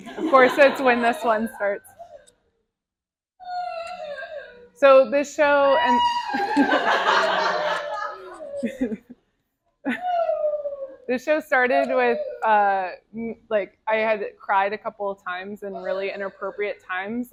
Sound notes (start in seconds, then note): 6.3 crowd laughter